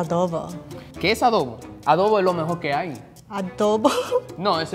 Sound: speaking in foreign language

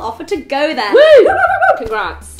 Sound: cheering

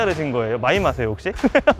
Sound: haha

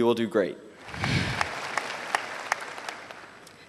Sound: applause

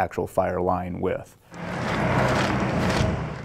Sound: crunching

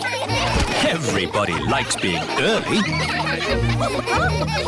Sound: laughter

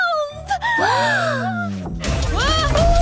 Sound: gasping

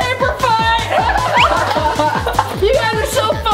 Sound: laughing

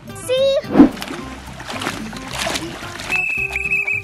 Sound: water splashing; whistle blows

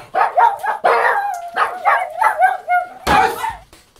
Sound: boss's voice is replaced by Daisy's barking

